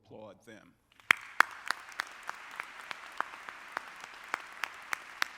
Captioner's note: audience clapping